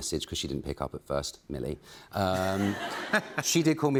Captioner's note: laughter